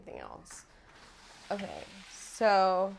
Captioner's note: door opens